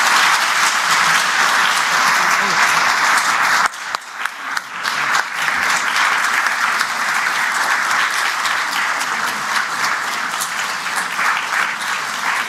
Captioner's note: applause